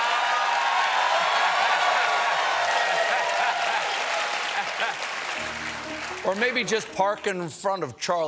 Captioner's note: cheers and applause; laughter